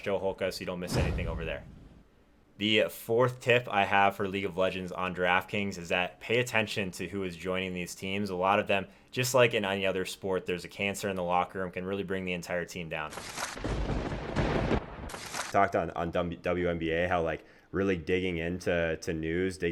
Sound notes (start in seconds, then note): 13.5 thunder crackling